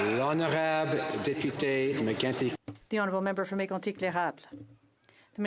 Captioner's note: some Applause